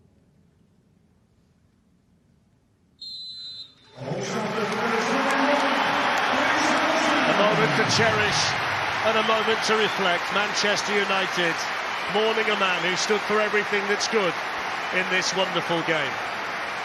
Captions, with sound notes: [whistle blows] Old Trafford, there is only one Bobby Charlton. [supporters applauding] - A moment to cherish and a moment to reflect. Manchester United mourning a man who stood for everything that's good in this wonderful game.